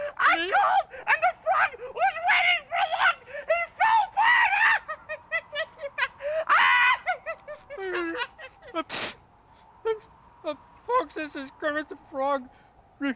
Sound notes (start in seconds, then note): 5.5 laughs loudly; 8.8 Kermit sneezes